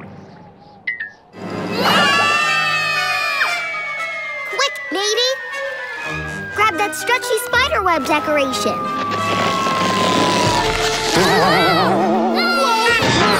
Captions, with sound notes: [screaming] Quick matey, grab that stretchy spider web decoration. Whoa whoa, whoa!